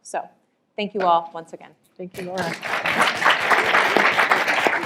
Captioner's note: applause